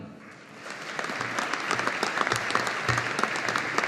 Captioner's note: audience applauding